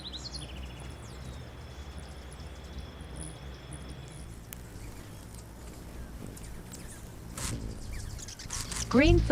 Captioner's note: birds chirping; birds singing